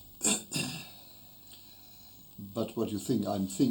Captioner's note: interviewee clears throat